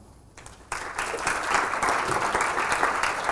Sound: applause

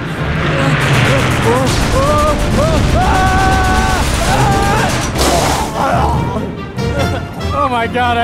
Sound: shouting

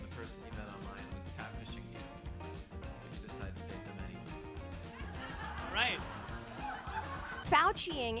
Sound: laughter

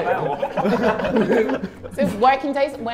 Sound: Sidemen laughing

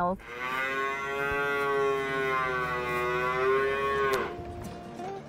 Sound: cow lowing 'moooooooooo-ooooooo'

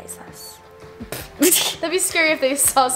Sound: laughs

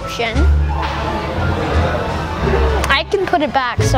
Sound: shoppers talking in background

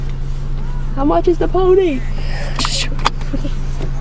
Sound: laugh

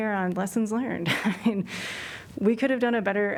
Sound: laughter

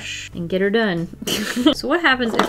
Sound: laughs

